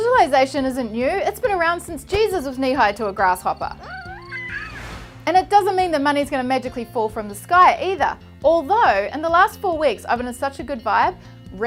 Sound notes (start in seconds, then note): 3.8 baby coos